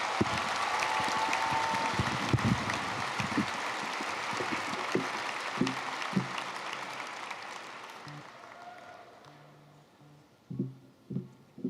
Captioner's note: applause